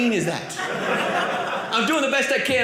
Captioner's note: audience laughing